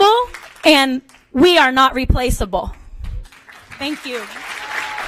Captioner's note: applause